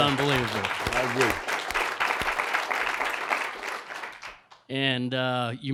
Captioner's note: audience applauding